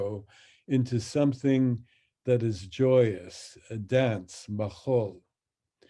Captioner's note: speaks in Hebrew